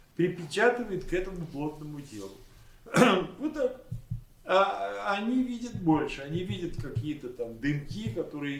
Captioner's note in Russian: откашливается